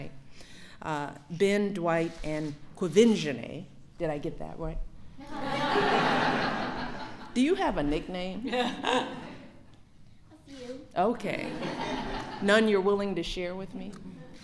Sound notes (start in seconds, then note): 5.2 laughter; 11.4 laughter